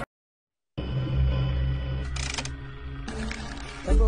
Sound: static

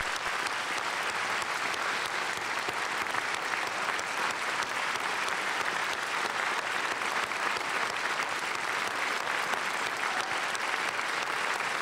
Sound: applause

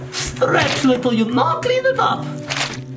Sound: portal goo squelching

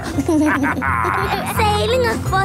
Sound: captain dog and kids laughing

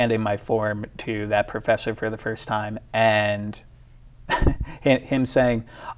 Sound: laughs

